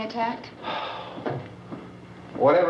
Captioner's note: Harry sighs